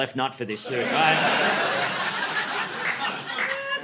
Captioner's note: audience laughing